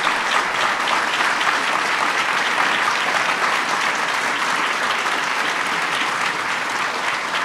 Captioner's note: applause